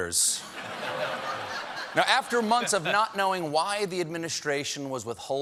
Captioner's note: laughter